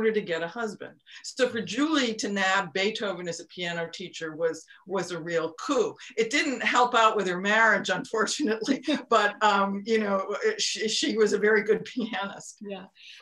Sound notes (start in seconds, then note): 9.3 laughs